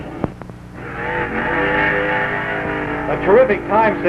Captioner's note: engine roaring